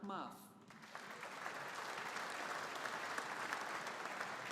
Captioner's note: audience applauding